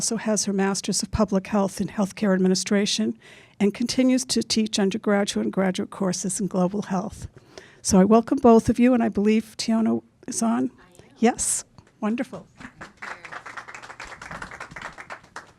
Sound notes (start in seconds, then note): 12.6 applause